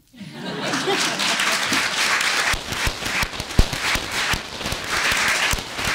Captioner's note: laughter; applause